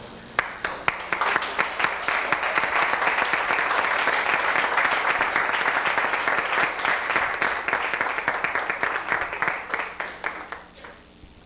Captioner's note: applause